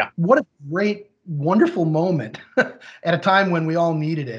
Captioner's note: laughs